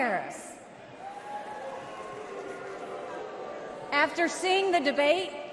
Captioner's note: crowd jeers